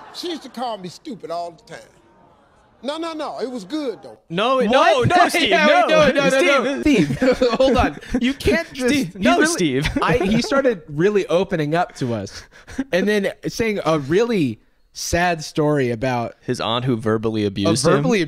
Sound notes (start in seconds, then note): 4.7 laughs